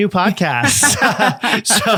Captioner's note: both laughing